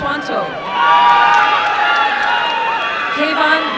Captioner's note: applause and cheering